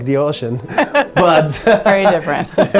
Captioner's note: laughs